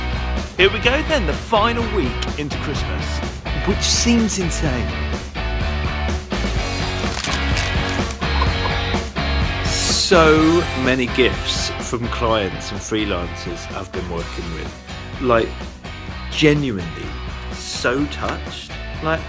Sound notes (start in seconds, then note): 6.8 paper crinkles; 7.9 laughing